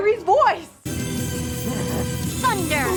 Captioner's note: sounds of Battle